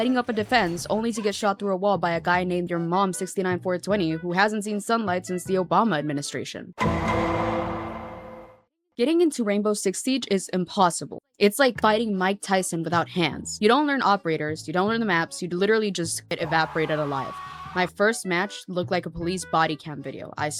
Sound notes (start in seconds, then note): 16.3 screaming from the depths of hell